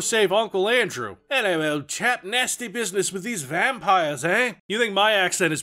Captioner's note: British accent again